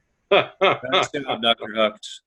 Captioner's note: laughing